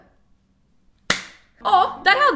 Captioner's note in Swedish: schmack!